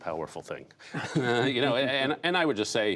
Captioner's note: laughter